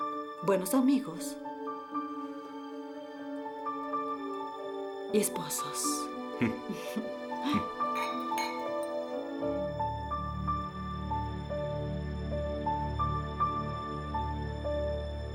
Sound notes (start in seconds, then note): 7.8 clink